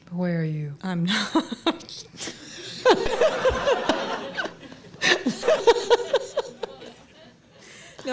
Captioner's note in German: Lachen